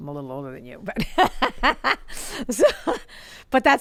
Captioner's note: laughs